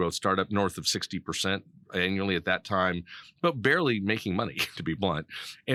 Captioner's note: laughing